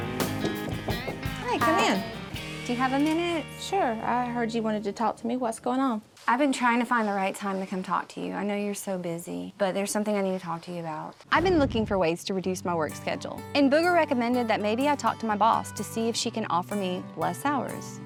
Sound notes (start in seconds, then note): 0.5 knocking